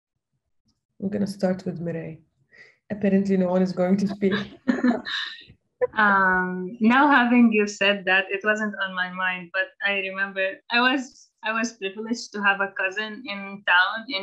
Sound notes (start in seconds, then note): 4.2 laughter